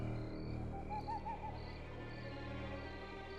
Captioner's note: bird cooing